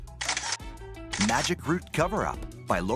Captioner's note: camera shutter clicks